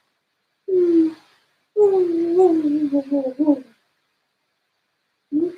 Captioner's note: coos gently